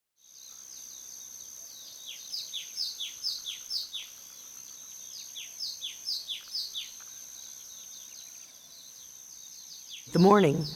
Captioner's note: birds chirping